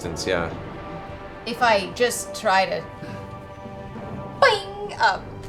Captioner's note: bowstring noise